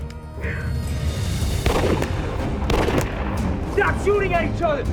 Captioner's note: gun shots